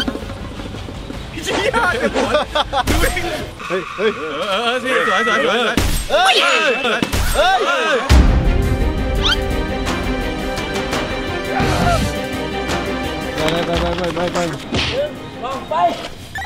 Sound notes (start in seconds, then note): 1.3 laughs; 1.7 cheering